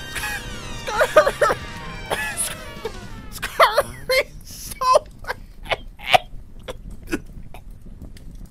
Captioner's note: coughing and wheezing; through coughs and wheezes